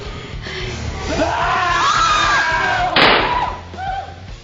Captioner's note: Tim yelling; gun firing